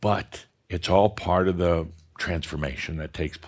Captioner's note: none